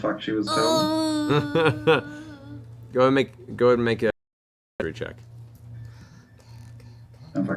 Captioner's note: laughs